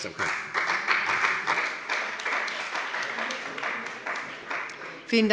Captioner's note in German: Beifall bei dem BÜNDNIS 90/DIE GRÜNEN und der CDU